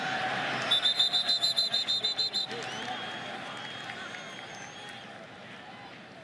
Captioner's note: whistle